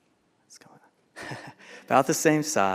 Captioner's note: laughs